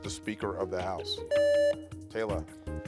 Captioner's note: buzzer beeps